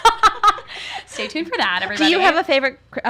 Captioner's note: laughs